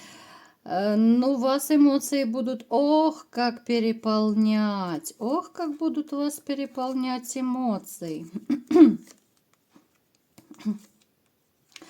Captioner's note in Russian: откашливается